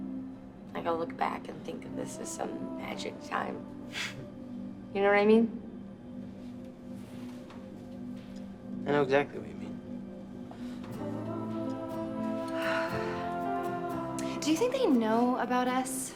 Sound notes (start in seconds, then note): 12.6 Elizabeth sighs